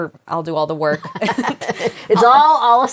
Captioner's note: both laughing